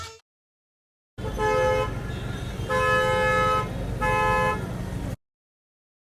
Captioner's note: traffic noise